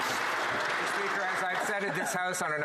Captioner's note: some Applause